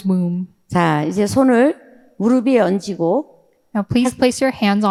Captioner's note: speaking in foreign language